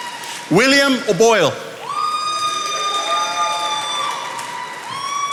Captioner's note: attendees applauding